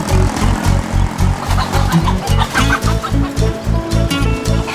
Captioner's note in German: Aufgebrachtes Gackern